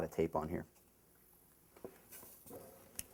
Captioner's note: pause